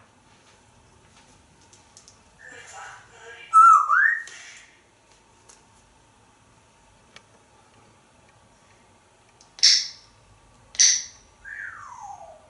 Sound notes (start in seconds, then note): 3.6 whistle; 9.3 click sounds